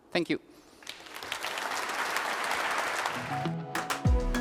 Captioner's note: applause